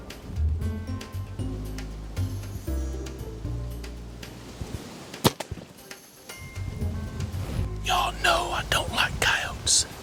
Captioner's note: whispering